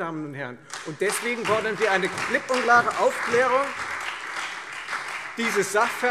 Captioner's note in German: Lebhafter Beifall Freie Demokraten, SPD und DIE LINKE